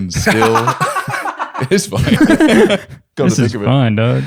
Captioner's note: laughter